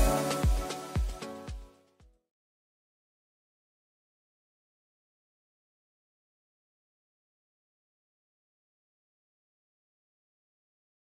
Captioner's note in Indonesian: tidak ada suara